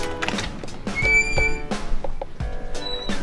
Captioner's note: door squeals open